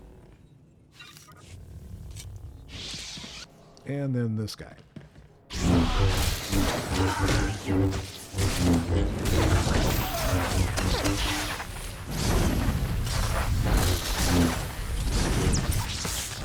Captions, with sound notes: And then this guy. [gunfire]